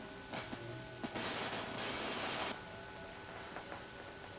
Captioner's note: static crackling